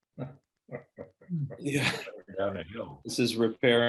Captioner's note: laughing